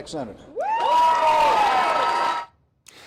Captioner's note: cheering